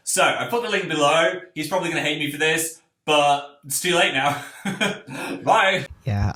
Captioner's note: laugh